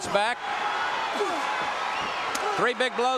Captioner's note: audience cheering